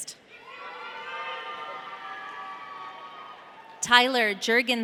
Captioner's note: audience cheering